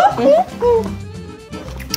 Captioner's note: munch munch